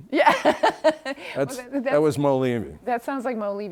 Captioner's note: laughs